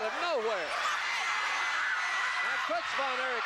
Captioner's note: audience cheering